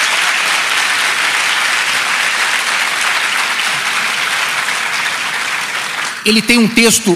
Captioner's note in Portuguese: Aplausos